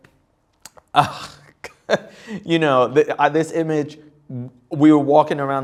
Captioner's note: laughs